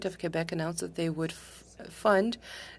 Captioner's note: speaking French